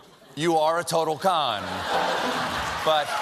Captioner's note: laughter; applause